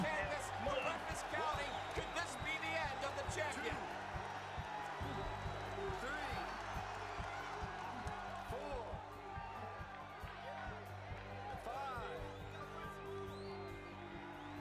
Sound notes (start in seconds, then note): 6.6 audience cheering; 8.6 building instrumental music; 11.7 audience cheering